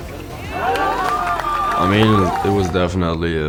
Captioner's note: crowd cheers